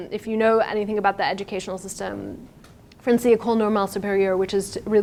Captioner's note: speaking in foreign language